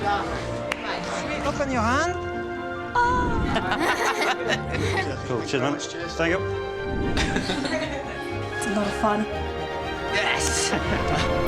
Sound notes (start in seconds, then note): 3.3 laughing; 7.1 laughing